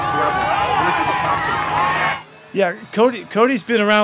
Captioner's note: crowd cheering drowns out interviewer